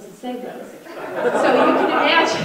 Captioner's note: audience laughter